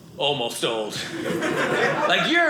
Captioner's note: audience laughing